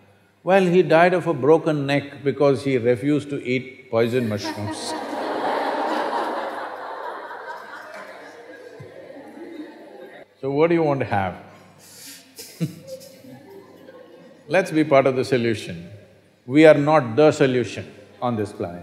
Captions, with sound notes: “Well, he died of a broken neck because he refused to eat poison mushrooms (Laughter).” So what do you want to have (Laughs)? Let’s be part of the solution. We are not the solution on this planet.